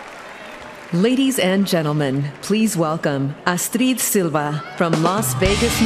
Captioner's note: cheering and applause